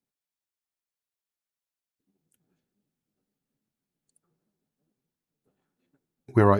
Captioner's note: silence